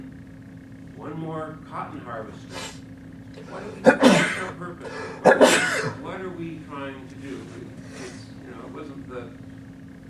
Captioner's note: sneezing fit